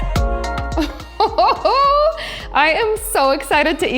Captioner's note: laughs